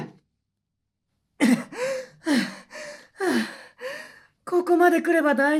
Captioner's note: panting